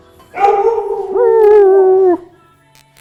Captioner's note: dog howling